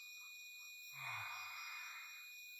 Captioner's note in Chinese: 嘆氣